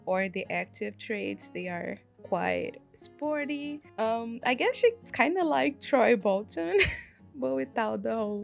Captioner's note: laugh